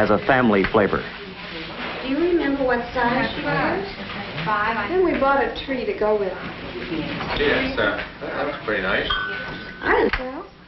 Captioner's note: chatter